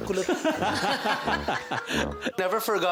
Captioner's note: laughter